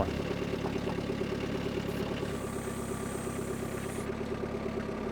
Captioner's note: machine whirring